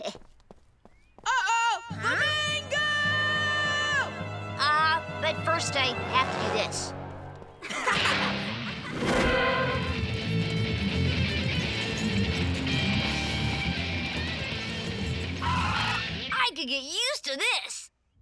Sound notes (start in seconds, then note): 7.6 laughing